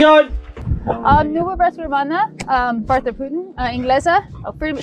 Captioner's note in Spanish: idioma extranjero